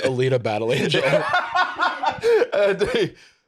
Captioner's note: laughs